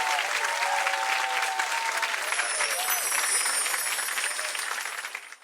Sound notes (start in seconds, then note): 2.2 wind chimes; 4.3 audience clapping